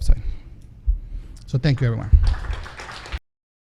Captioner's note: audience applauds